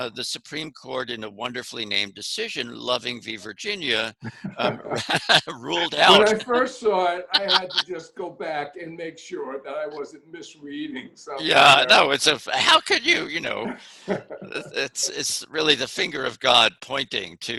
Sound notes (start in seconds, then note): 3.9 both laughing